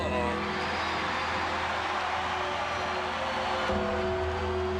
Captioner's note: somber music; crowd cheering; somber music continues